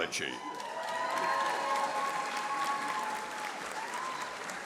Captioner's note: audience applauding